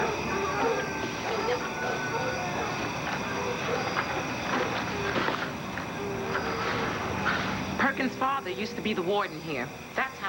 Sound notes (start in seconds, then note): 0.0 dogs bark